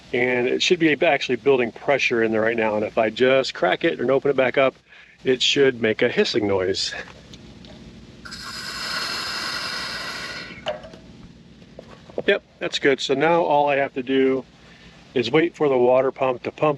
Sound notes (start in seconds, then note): 8.2 valve hissing